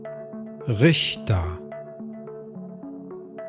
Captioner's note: german